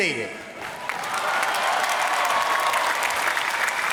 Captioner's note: applause